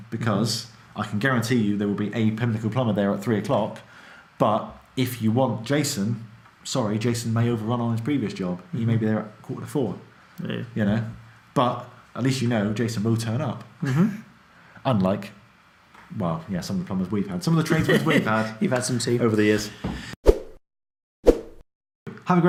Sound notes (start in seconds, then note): 13.8 laughs